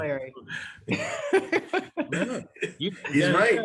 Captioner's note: laughs